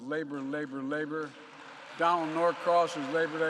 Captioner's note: applause